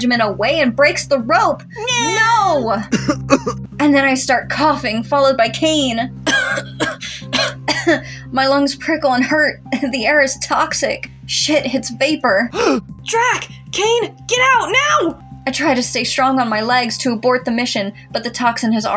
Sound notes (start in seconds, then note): 6.2 cough; 6.2 coughing